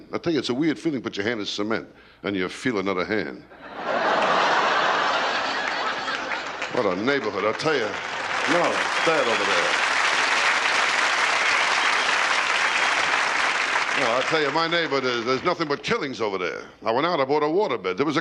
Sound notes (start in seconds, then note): 3.5 laughter; 8.2 applause